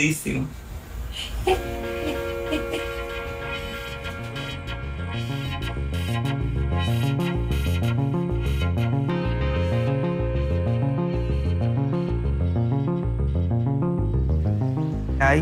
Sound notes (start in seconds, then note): 1.2 laughing; 1.6 dramatic music